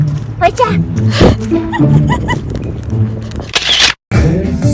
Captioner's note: laughing